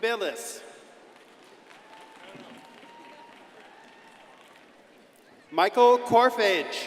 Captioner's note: crowd applauding and cheering